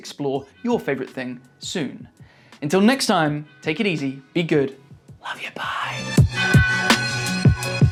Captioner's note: whispers